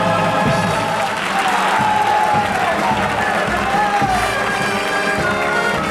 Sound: audience applauding; all clapping and cheering

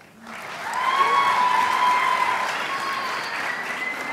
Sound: crowd applauds

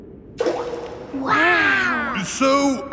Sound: rock plops

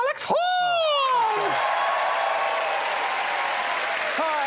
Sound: crowd cheers and applauds

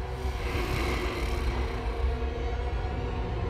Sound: growling

